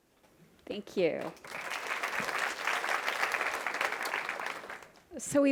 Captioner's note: audience applauding